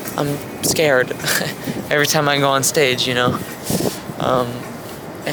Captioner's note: none